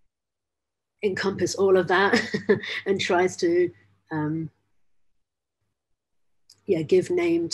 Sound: laughs

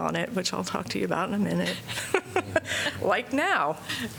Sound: laughter

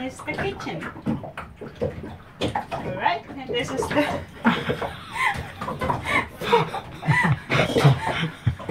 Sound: laughs

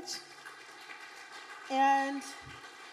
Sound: audience applauding

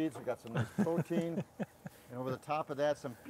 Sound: laughing

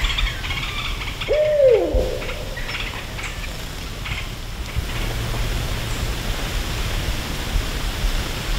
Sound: owl hoot

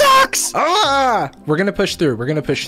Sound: yells

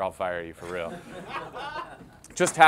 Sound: agents laugh

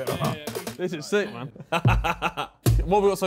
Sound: laughing

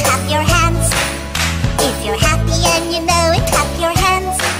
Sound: clap clap; clap clap

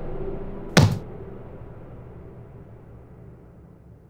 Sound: stamping sound

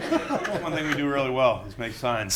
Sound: laughing

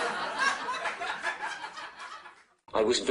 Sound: audience laughter

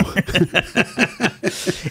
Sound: laugh

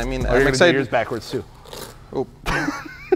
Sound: bag ripping

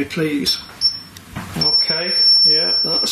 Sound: metre beeps

